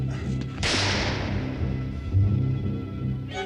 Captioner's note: gun firing